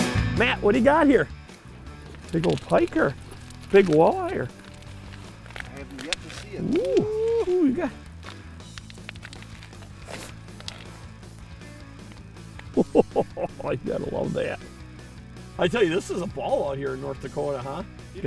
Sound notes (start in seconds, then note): 0.4 voiceover; 5.8 voiceover; 12.7 laughter; 12.8 voiceover